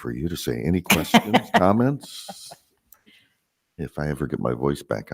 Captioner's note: laughing